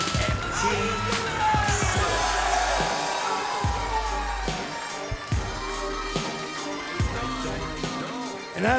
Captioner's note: cheers & applause